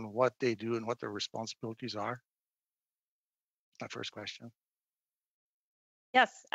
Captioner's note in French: voix de l'interprète